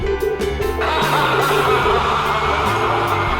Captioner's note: loud evil laughter